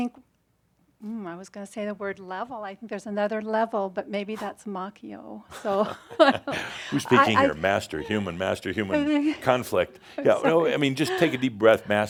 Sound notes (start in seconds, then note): 5.6 they chuckle